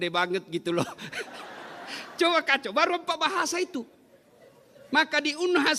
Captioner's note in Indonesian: tertawa